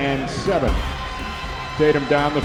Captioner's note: crowd Noise